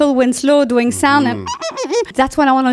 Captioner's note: imitating police siren